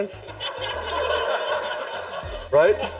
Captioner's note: audience laughs